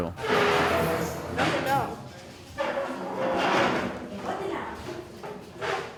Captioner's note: speaking in foreign language